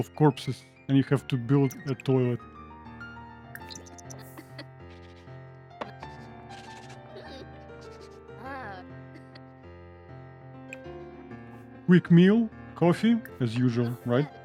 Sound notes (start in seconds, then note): 2.4 laughs